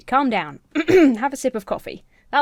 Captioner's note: clears throat